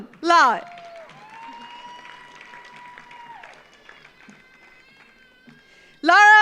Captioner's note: audience applauds; audience cheers